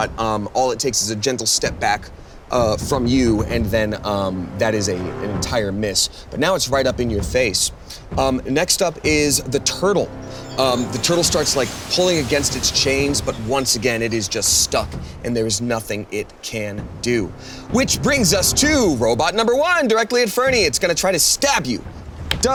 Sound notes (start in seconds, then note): 10.3 metal rattling; 10.3 water whooshing